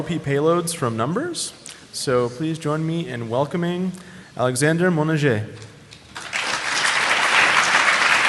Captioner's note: applause